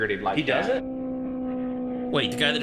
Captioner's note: car engine roaring